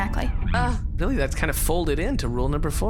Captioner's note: makes a relieved/impressed sound